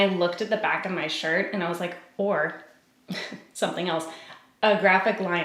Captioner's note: giggles